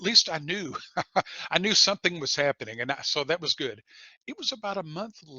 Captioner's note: laughter